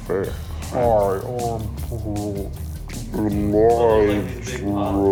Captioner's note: both mimic slowed down audio